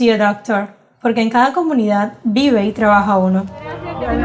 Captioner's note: speaking Spanish